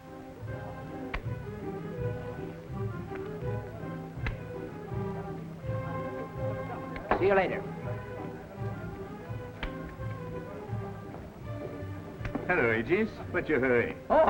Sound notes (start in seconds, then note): 0.1 middle Eastern music; 8.6 people chattering